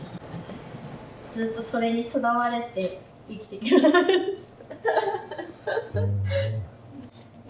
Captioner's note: laughs